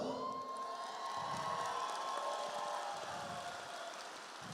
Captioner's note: audience applauds